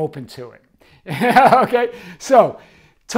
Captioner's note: laughing